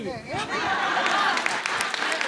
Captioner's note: audience laughs; audience applauds